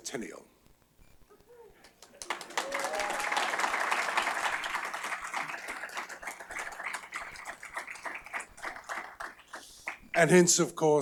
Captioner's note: applause